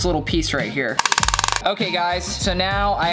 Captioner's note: hammer clanging